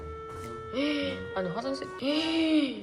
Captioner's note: gasps